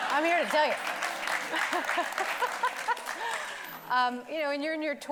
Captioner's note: audience applauding; laughing